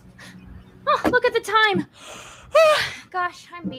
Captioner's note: yawns